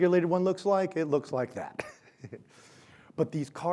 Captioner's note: laughs